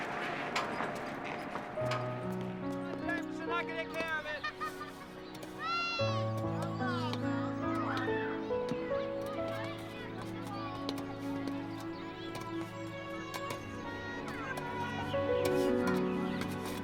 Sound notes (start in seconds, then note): 0.1 dramatic music; 3.4 families muttering faintly